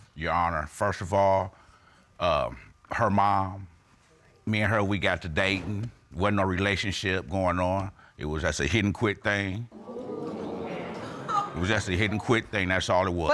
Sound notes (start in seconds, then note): 9.7 audience exclaiming